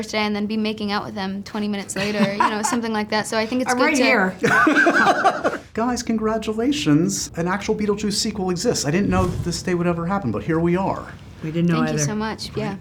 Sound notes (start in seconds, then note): 4.4 laughs